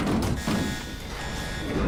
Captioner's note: alarm blaring